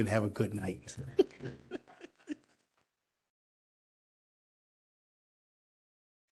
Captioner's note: laughter